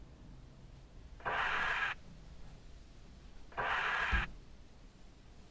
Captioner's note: scraper swooshing